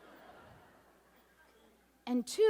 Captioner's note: audience laughs